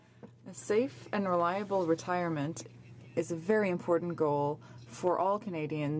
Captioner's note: speaking French